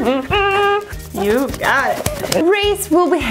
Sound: clapping

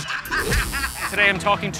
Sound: buzzer

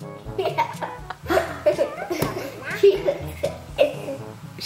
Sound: children laugh

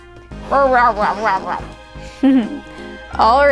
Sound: grumbling

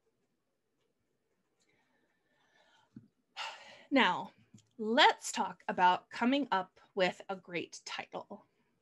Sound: sighs heavily

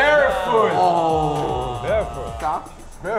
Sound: men grumble

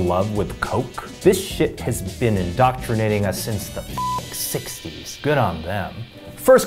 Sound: beep

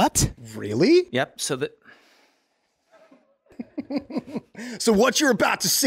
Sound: guys laughter

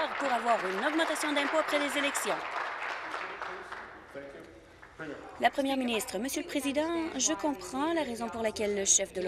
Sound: applause

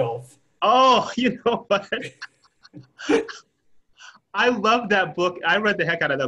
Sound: laughs

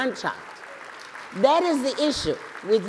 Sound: applause

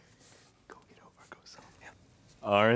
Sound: whispering

